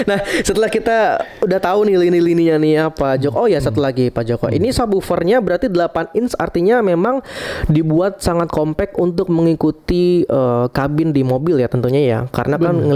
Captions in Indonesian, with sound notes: Nah, setelah kita udah tahu nih lini lininya nih ya Pak Jok. Oh ya, satu lagi Pak Joko. Ini subwovernya berarti 8 inch. Artinya memang [terkesiap] dibuat sangat kompact untuk mengikuti ee kabin di mobil ya tentunya ya. Karena kan